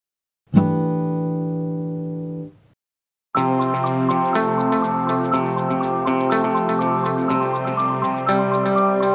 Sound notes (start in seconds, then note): 0.6 chime sounds; 3.3 upbeat music